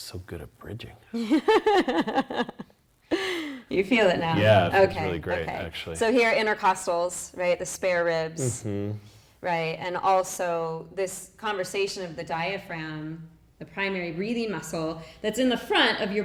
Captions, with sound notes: I'm just so good at bridging. (laughing) - You feel it now? - Yeah, it feels really great actually. - So, here intercostals, the spare ribs, and also this conversation of the diaphragm, the primary breathing muscle that's in the front